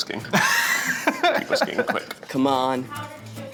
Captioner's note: Eugene laughing